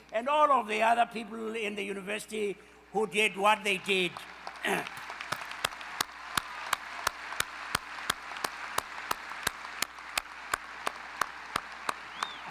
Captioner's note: enthusiastic applause